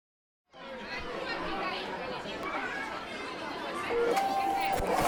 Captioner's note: crowd talking; photocopier sound